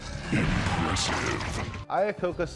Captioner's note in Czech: Hlas videohry